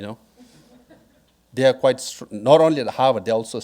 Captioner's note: audience laughing